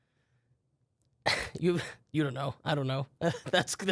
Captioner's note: laughs